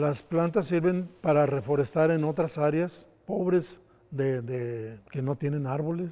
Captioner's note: speaker speaks in foreign language